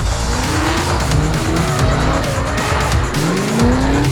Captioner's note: engines rev